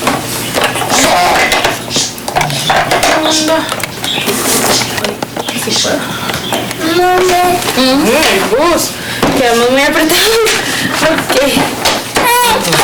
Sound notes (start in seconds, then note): 9.3 mother speaking to child calmly in Spanish; 12.2 child crying